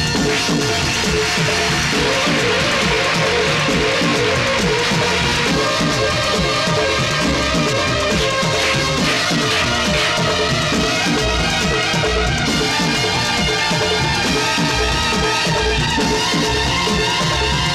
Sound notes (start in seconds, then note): 0.9 crowd Applauding